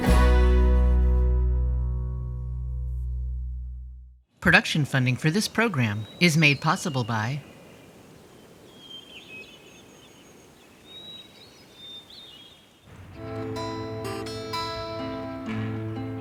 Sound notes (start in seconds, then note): 8.5 birds chirping; 13.1 soft guitar music